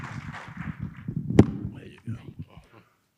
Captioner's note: audience applauding; microphone squeaking